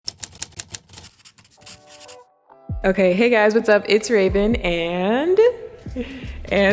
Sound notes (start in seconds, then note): 0.0 soft typing; 0.1 soft scribbling